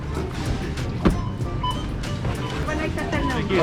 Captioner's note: register beeping